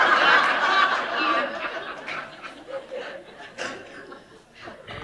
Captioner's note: laughter